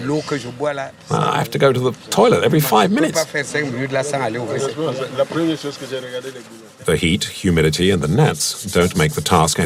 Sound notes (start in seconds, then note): 4.1 foreign language